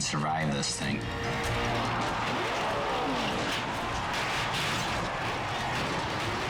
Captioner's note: engine rumbling; car crashing; crowd clamoring; dramatic music